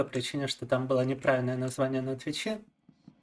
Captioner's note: speaking in Russian